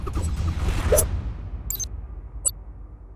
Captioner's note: upbeat music; knife scrapes; video beeps